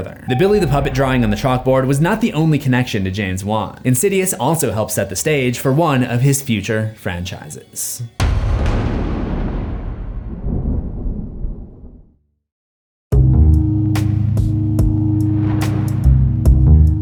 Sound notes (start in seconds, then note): 8.2 impact